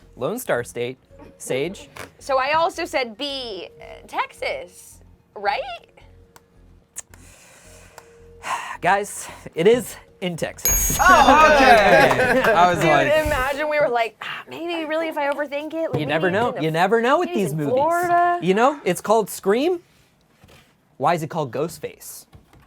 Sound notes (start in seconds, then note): 10.6 bell dings; 11.0 applauding